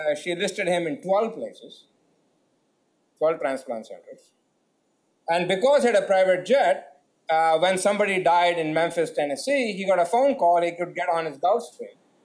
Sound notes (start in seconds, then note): none